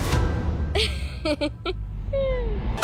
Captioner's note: laughs; up-beat music plays